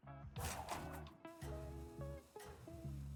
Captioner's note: whooshing